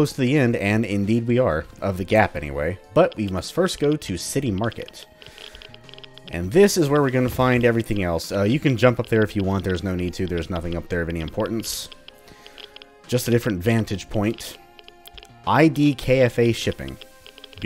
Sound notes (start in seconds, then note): none